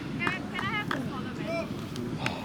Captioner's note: crowd Talking